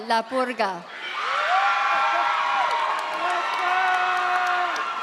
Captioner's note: audience cheers